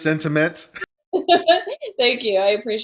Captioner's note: laughs